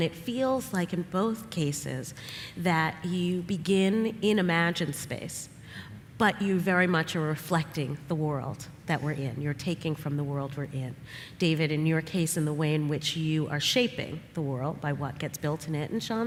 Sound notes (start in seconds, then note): none